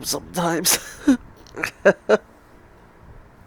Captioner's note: crying laugh